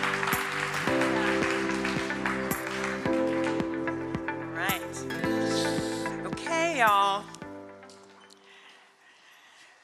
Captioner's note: cheering and applause